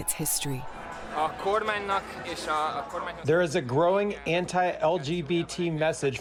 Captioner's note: through translator